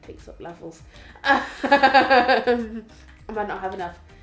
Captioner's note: laughs again